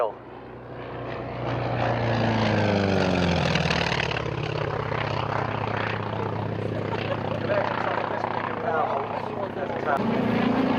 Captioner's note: aircraft sounds